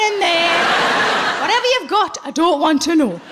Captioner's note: laughing